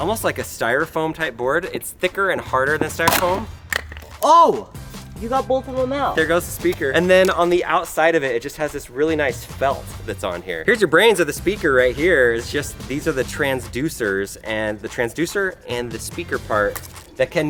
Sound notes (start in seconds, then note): 2.9 speaker snapping